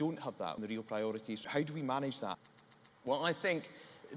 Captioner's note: click click click